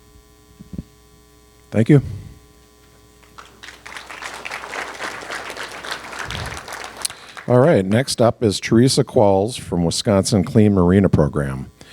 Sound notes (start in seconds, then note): 3.2 applause